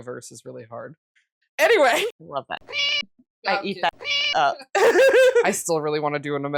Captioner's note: meow